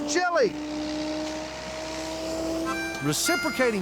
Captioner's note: grinder whirring